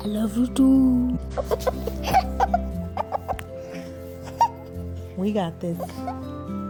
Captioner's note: mya giggling